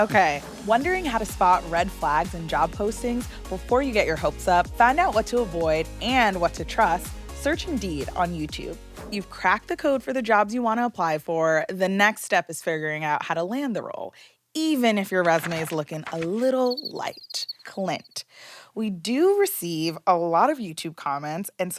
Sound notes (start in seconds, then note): 15.2 paper flapping; 16.6 crickets chirping